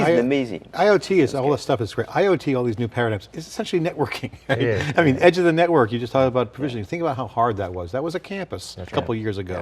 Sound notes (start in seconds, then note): 4.4 laughing